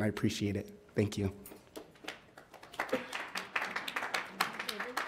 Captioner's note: audience applauds